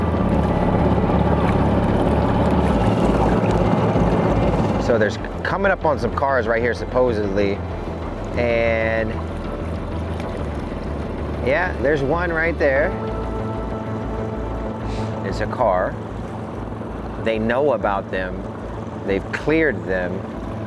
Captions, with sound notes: (boat engine running and serious music) Coming up on some cars right here, supposedly. And.. Yeah, there's one right there. There's a car. They know about them, they've cleared them.